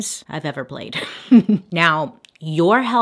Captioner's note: Bailey chuckles